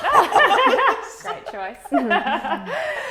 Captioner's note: laughing